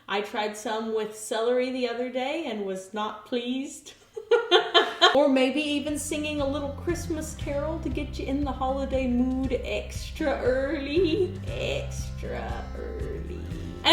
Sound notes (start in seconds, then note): 4.2 laughs